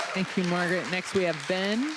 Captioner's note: applause